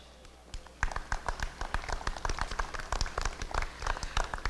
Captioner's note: applause